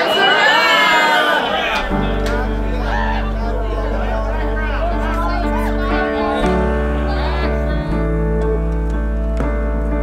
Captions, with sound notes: - (group chanting) That's a wrap. (piano playing) (group chattering)